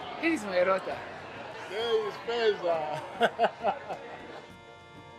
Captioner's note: laughter